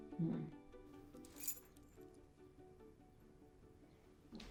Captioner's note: key jingles